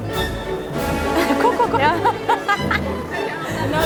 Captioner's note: lachend